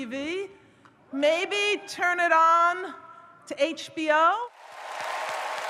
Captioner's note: audience cheers